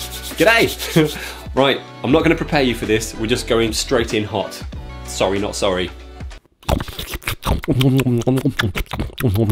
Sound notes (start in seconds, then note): 6.6 awful, awful scoffing noises. I'm sorry